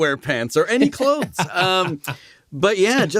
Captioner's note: laughter